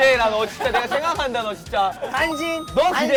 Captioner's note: hehehe